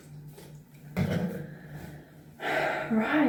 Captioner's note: sigh